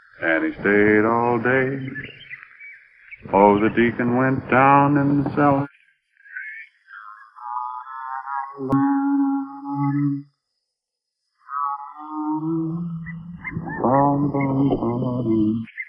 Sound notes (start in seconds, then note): 6.9 John humming; 11.4 birds chirping